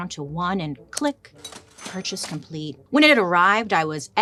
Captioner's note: cash register dings